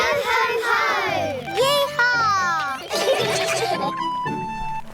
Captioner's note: all giggle